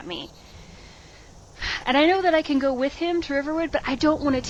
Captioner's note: sigh